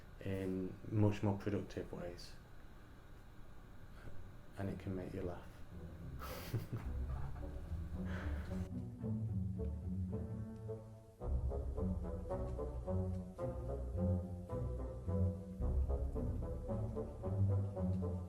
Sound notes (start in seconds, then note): 5.8 laughs